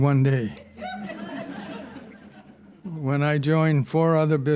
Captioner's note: audience laughing